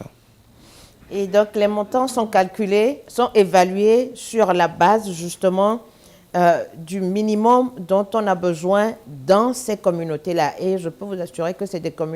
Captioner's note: speaking french